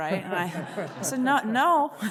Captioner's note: all laughing